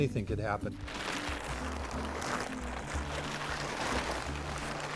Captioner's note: flipping paper